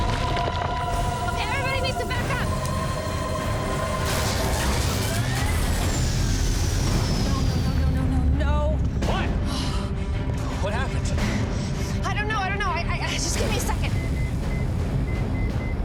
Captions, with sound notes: Okay, everybody needs to back up! [machine whirring] [machine stops] Oh, no, no, no, no! What? What happened? I don't know, I don't know. Give me a second!